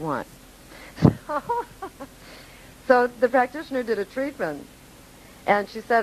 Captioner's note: laughing